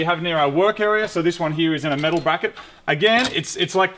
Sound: bracket clicks

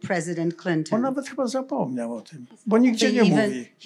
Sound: foreign language

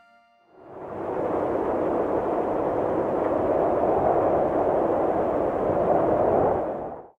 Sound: viento ululando

